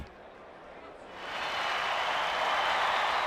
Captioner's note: crowd cheering